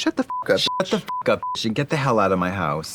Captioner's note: beep